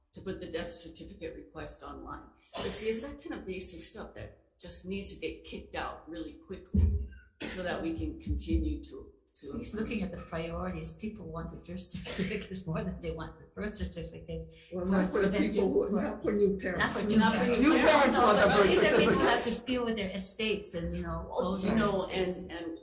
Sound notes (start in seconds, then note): 15.1 laughs; 18.5 attendees laughing